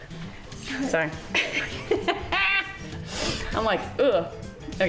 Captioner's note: laughing